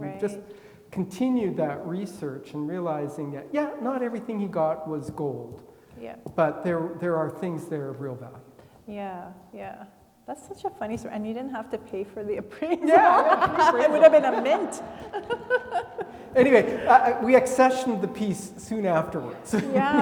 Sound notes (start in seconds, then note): 12.6 laughing; 16.1 laughs; 19.3 laugh